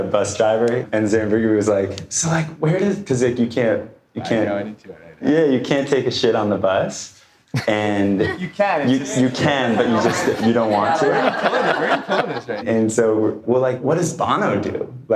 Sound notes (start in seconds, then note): 10.8 audience laughter